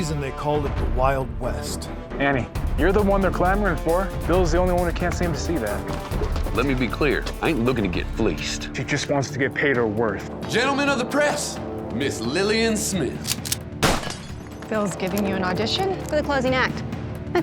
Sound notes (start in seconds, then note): 13.2 cocks rifle; 13.8 gunshot